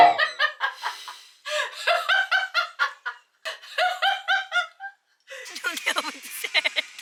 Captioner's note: laughs